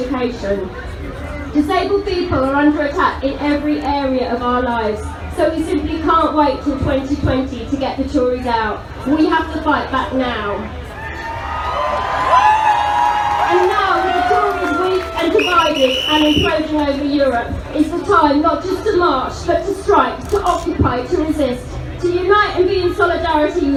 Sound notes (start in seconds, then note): 15.8 crowd cheers; 18.0 crowd cheers over speech